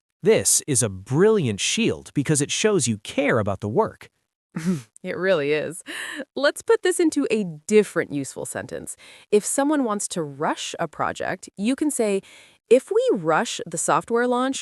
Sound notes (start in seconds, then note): 4.6 light laugh